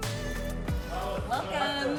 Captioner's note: man laughs